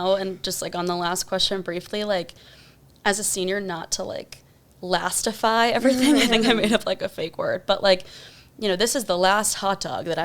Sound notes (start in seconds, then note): 5.8 laughs